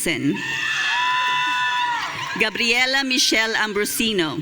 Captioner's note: audience cheering